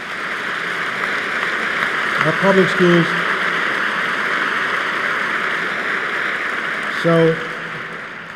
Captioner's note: applause; applause